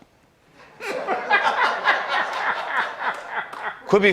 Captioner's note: laughter